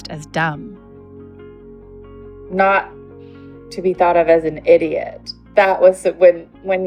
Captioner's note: on Zoom call